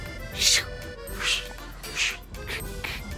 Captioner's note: skating mouth sounds